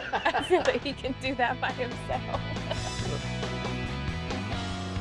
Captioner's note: laughter; laughter; upbeat music